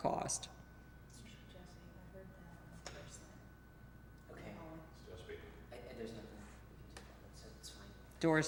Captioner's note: quiet production chatter